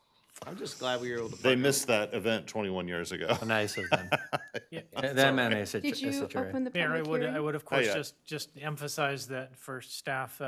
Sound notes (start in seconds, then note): 3.2 laughter